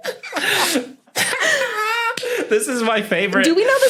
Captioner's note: guests giggling; squawk-laughs